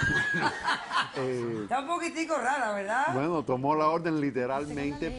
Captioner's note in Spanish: Risas